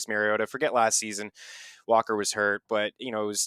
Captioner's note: inhales